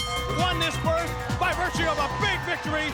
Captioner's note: bell ringing